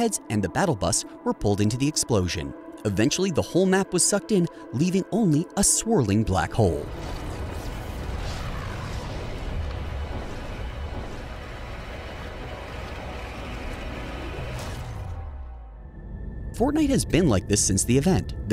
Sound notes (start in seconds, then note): 7.1 dramatic music; 7.4 air rushing